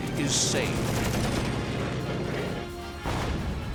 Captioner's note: rapid gunfire